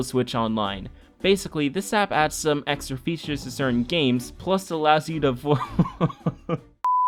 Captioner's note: laughs